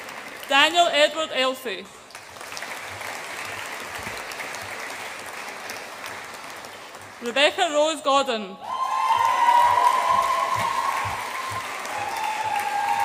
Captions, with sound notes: Daniel Edward Elsey. (AUDIENCE APPLAUDS) Rebecca Rose Godden. (AUDIENCE APPLAUDS AND CHEERS)